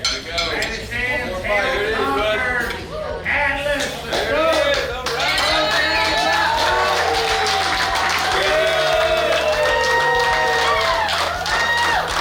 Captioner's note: cheering